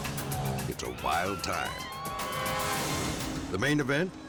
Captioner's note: audience cheers